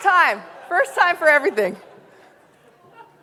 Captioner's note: audience laughing